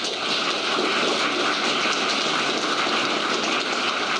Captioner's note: applause